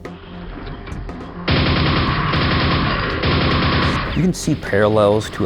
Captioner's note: gunfire